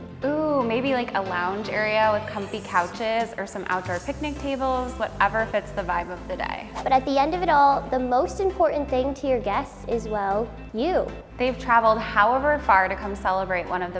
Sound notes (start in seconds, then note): 6.8 swooshing